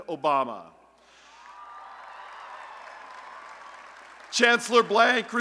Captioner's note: applause and Cheering